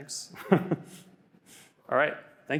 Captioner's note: laughs